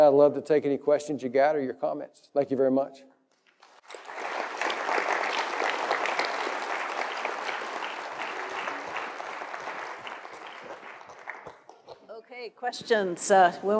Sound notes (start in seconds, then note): 3.4 applause